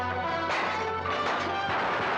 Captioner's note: dramatic music; glass breaks; gunfire; dramatic music